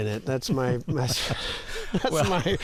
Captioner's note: laughter